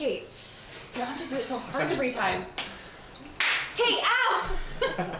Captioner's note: laughs